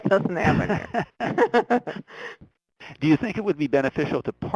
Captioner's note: laughing